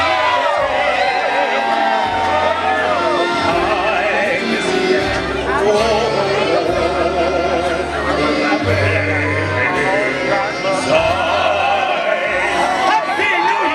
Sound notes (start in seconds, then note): 0.0 crowd cheering